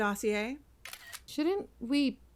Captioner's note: iphone camera click